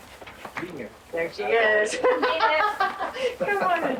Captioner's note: laughing